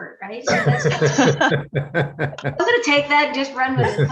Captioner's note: laughing